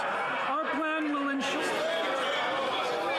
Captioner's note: yelling